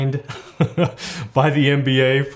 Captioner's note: laughs